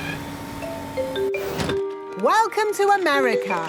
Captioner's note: oinks